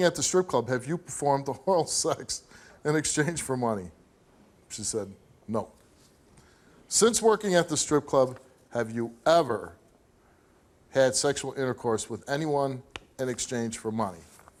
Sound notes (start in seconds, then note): none